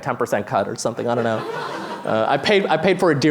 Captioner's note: laughter